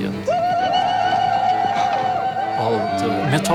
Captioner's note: chanting